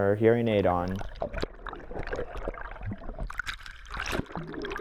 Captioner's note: water sounds